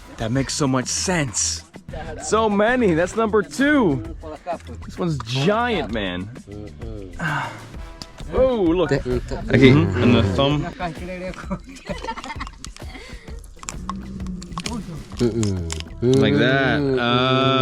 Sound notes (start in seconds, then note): 11.6 kids laughing